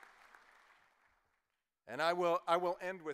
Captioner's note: cheers and applause